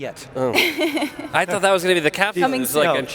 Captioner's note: laughing